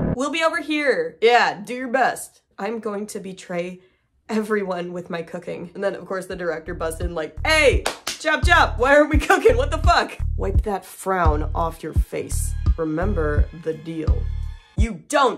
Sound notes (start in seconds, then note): 4.6 ominous rhythmic music; 7.8 claps twice